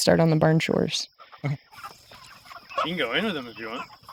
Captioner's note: chickens clucking